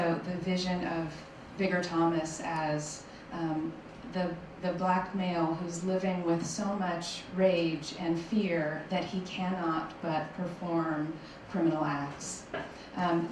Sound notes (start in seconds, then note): none